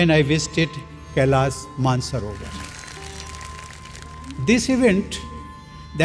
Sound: applause

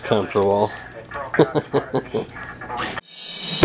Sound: laughs; techno music

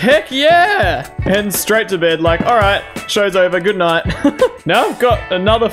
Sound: laughs

